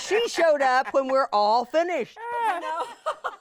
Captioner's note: everyone laughing